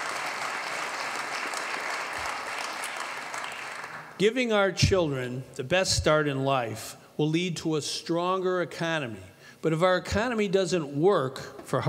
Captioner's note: applause